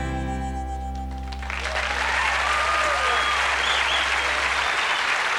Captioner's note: cheers, applause